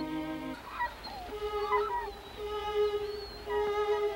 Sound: whining

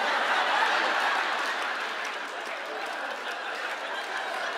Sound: laughter

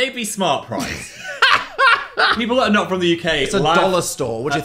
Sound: Dan laughs

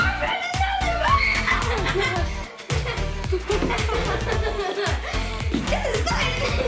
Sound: laughing; screaming

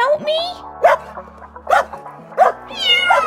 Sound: woof Woof! Woof!; meow

